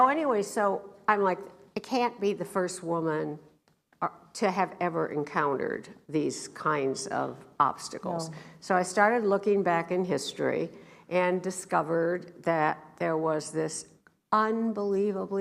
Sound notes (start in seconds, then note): none